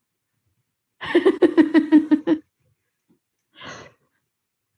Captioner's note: laughs